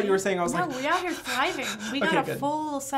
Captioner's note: panting hard